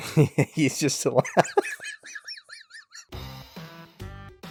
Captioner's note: laughing